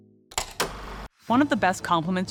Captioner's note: film reel clacking